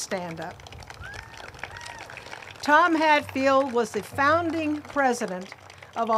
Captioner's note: group claps